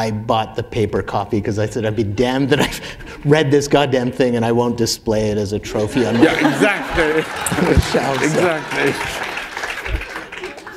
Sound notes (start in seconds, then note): 7.5 laughter; 8.5 applause